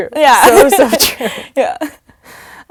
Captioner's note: laugh